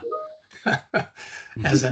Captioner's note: laughing